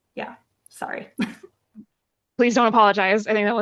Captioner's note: laughing